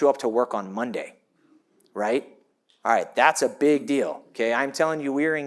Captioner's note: none